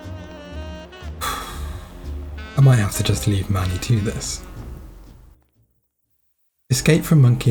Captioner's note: smooth jazz music; sigh